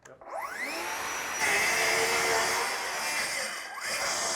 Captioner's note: sawing sounds